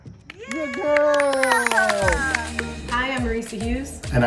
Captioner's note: clapping and cheering; upbeat electronic music